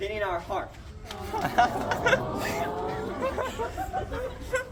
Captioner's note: crowd coos